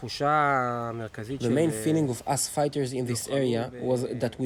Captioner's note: through translator